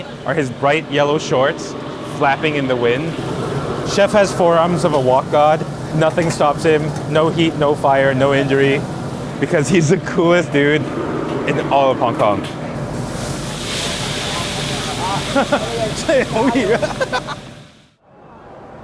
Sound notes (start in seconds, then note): 13.2 fire blazing; 13.2 laughs